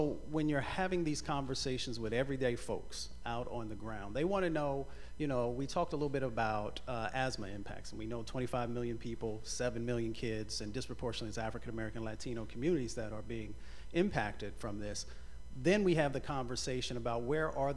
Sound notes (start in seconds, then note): none